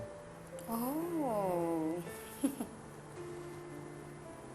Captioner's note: amused giggle